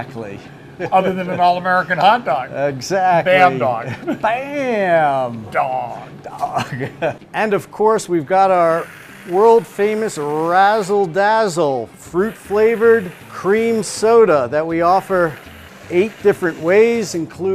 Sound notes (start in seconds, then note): 6.2 chuckles